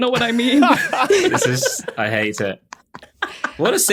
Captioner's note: group laughing